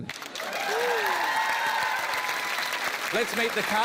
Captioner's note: cheering, applause